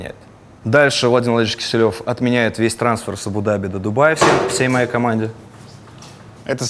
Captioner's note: something drops off camera